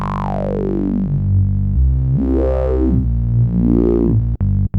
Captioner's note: mimics bass